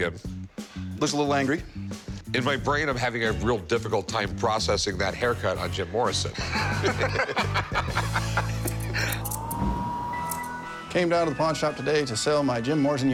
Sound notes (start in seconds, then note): 6.3 laughs